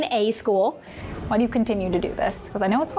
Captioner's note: air whooshes